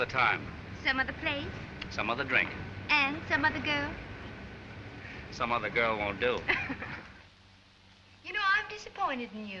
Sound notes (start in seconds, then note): 6.4 chuckles